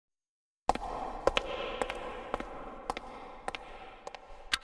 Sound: echoing footsteps

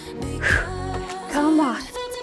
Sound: exhales

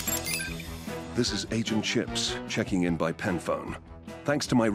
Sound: British accent

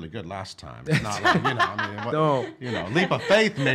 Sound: laughing

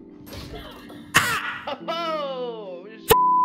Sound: surprised Arkansan noise

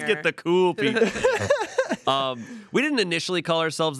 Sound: everyone laughs

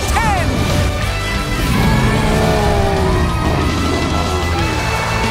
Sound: roaring

